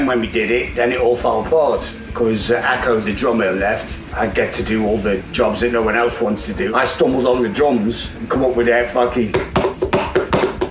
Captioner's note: bangs table